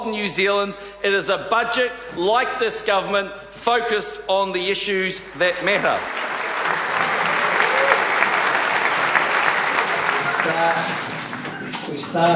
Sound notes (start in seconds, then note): 6.4 applause